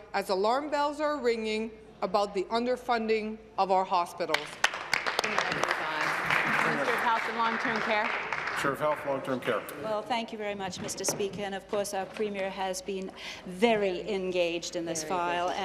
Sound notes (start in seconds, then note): 7.9 applause